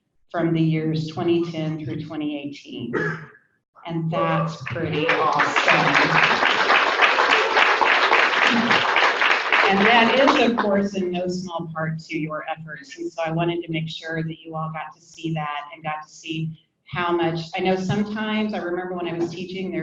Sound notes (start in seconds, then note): 4.4 people cheer and applaud